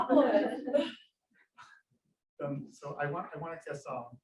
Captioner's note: audience laughs